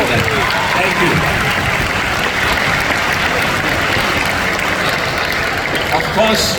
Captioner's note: applause